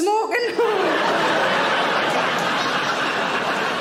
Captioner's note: audience laughing